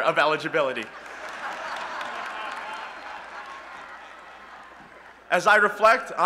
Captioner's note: laughter